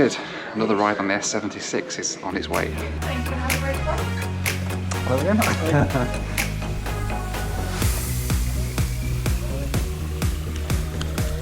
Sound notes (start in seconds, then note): 5.1 laughs